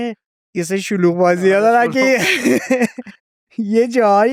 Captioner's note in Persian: خنده